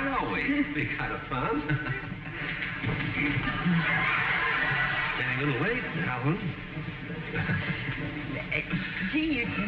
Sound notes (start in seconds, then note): 4.9 audience laughing